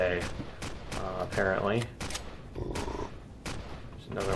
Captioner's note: turret fire continues; reloading; pulse rifle